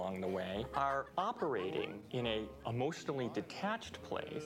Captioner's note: none